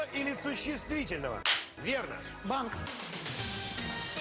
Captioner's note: Hikakin's strong handclap